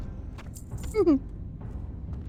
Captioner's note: laughs